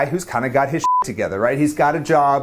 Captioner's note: beep